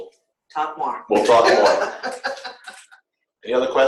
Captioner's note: laughter